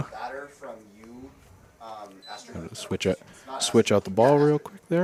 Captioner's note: indistinct chatter